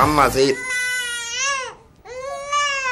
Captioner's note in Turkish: Bebek ağlar